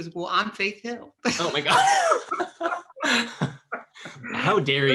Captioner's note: laughs